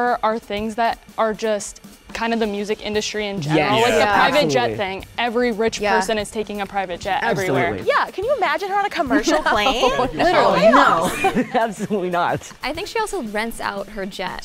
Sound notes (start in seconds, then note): 9.0 laughs